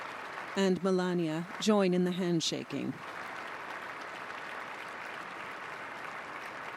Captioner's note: applause